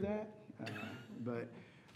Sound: laughing

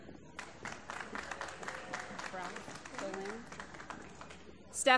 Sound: applause

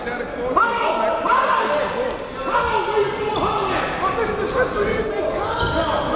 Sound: players and coaches yelling

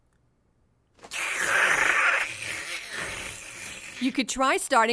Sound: slurping

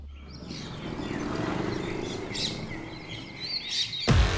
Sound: birds chirping; dramatic music playing

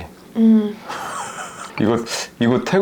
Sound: laughing

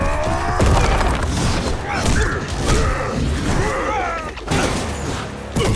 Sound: grunting; grunting

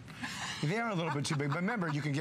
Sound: laughter

